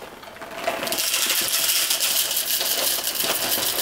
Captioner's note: beans falling